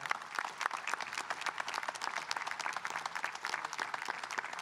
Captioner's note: audience applauding